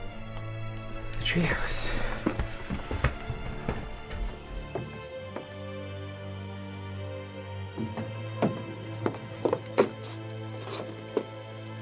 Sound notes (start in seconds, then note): 4.1 insects chirping; 7.5 dramatic music